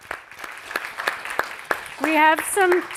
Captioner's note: all applauding